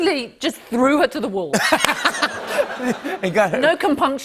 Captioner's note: laughter